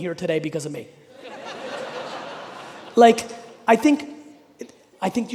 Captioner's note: audience laughing